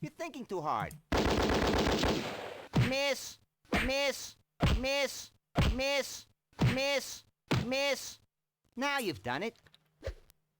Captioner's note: gunfire